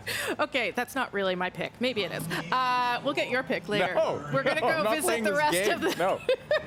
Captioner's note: laughter